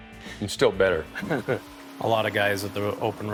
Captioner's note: chuckles